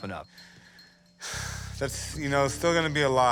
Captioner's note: sighs